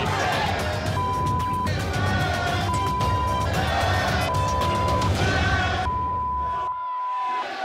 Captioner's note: beep